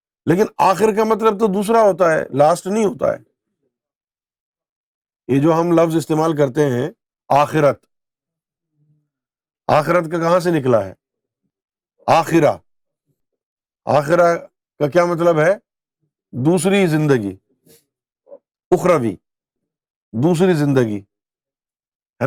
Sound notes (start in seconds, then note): 6.3 in Urdu; 13.1 in Arabic